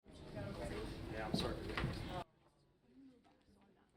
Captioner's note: audience chattering